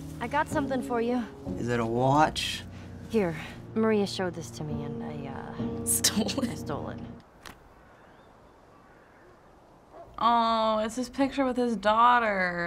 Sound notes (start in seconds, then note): 6.0 chuckling; 7.5 birds chirp